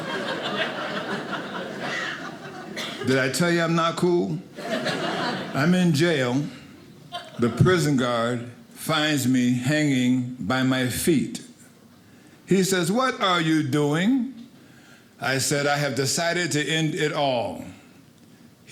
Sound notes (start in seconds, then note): 0.0 audience laughing; 4.5 audience laughing